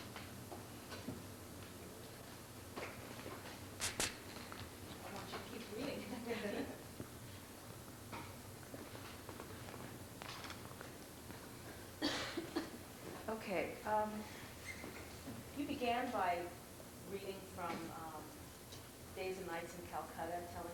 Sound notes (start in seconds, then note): 6.0 laughter